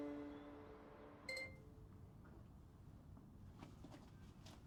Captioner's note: laptop chimes